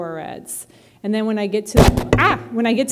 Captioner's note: bumps mic